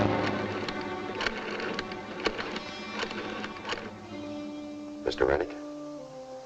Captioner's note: rotary phone dialing